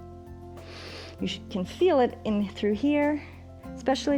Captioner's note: inhales